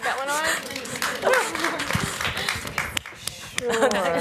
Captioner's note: applause